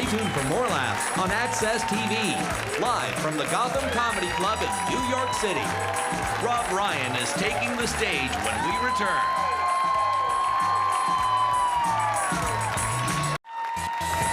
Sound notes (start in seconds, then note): 9.2 audience cheering; 10.1 upbeat music